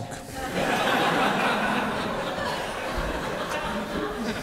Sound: laughter

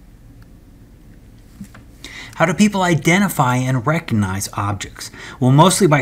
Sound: turn page

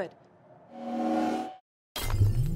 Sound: time freeze sound

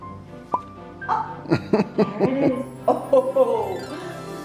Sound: father behind camera laughs

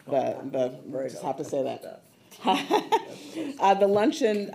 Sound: laughing

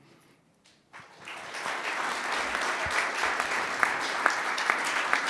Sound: audience clapping

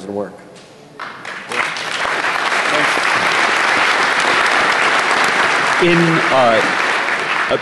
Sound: applause

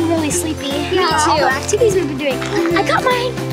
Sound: mumbles

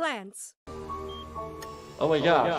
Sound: medical device beeping

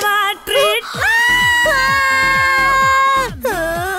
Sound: screams

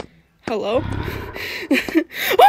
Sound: zombie growls

